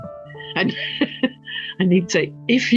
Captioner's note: laughs